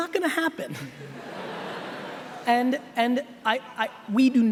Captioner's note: laughing